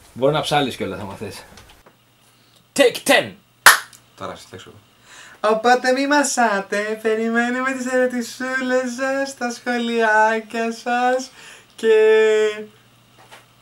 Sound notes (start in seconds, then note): 4.1 whispers